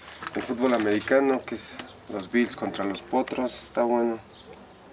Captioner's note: none